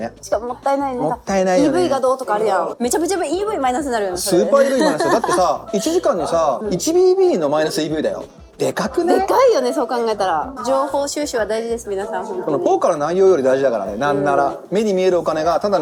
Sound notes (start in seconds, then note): 4.4 laughs